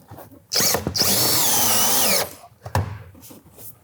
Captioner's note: tool whirring